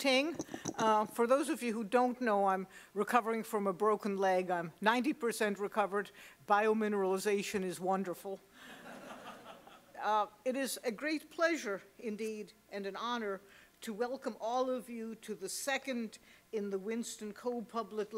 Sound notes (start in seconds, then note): 8.2 laugh